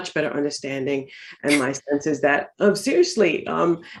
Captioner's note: laughs